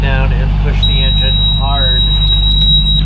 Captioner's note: loud beep